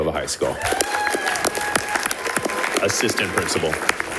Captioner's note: audience applauding